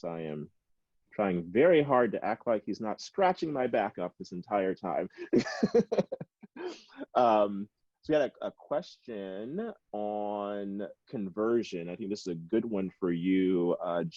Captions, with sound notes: I am trying very hard to act like he's not scratching my back up this entire time, (laughs). So we got a question on conversion. I think this is a good one for you,